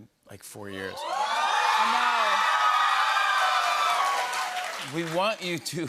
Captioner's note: cheers and applause